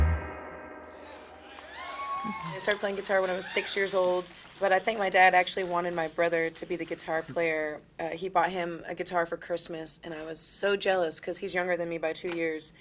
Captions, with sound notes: (audience cheering and applauding) - I started playing guitar when I was six years old. But I think my dad actually wanted my brother to be the guitar player. He bought him a guitar for Christmas and I was so jealous 'cause he's younger than me by two years.